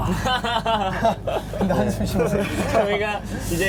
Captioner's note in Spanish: risas